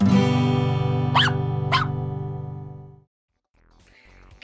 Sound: guitar note; dog barking

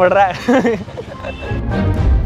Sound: chuckles

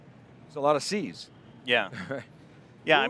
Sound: chuckles

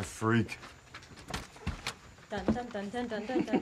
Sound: door opens

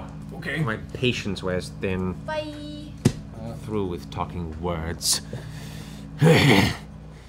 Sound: sighs

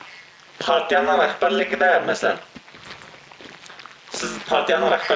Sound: speaks in foreign language

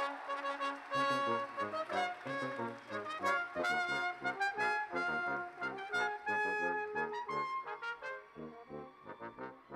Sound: cheers and Applause

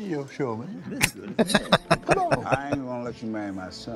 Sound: laughing

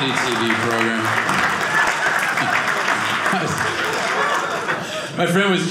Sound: audience cheering

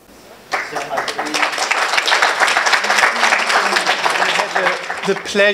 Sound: audience applauding

